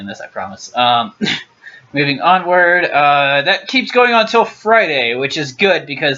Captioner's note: clears throat